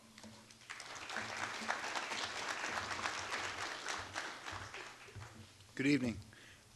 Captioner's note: applause